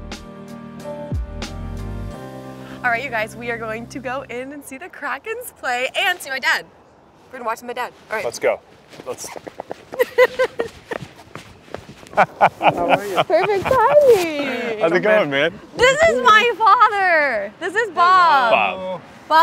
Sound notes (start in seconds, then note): 0.0 ambient music; 8.8 feet clacking; 9.9 Lana giggling; 12.1 laughing